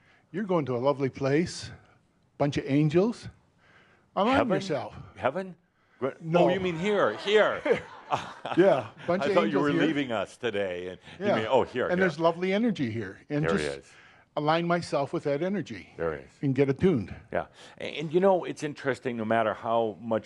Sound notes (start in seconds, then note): 6.8 laughter